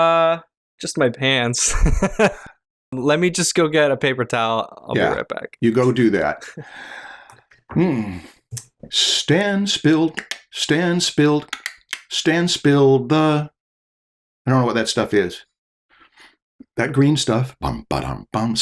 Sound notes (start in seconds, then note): 1.6 laughter